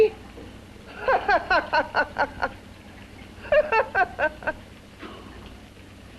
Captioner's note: laughs